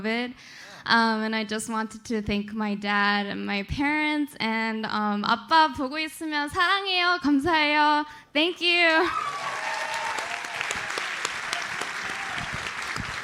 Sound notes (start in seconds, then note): 4.6 speaking Korean; 9.0 audience cheers and applauds